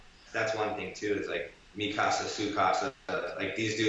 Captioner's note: speaking in foreign language